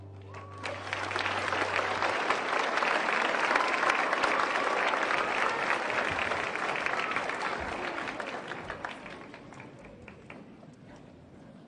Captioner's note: applause